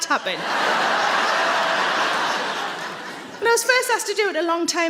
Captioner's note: audience laughs